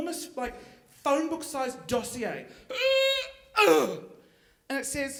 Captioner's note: grunting